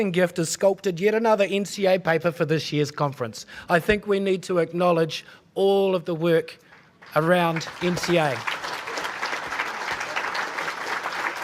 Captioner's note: applause